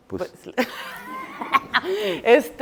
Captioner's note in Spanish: Risas